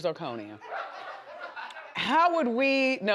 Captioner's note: audience laughs